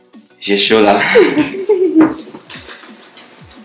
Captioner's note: both laugh